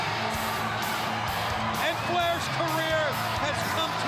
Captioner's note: crowd cheering